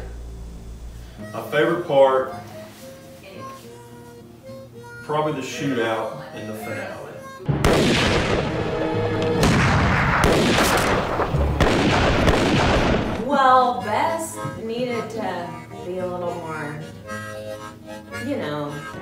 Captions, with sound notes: [Banjo music] My favorite part... probably the shootout in the finale. [Bang, Boom, Bang, Richochet, Bang bang] Well, Bess needed to be a little more... you know?